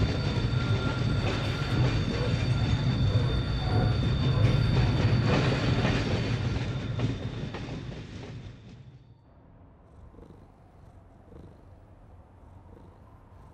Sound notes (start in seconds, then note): 0.0 train brakes squeal; 9.6 Jazzy purrs